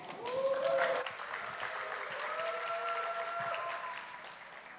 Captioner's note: audience applauding